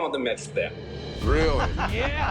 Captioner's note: laughter